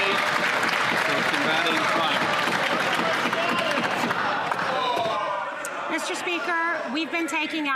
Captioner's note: some Applause